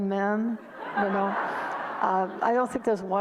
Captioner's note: audience laughter